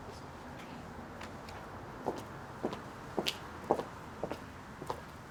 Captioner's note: pastor speaks faintly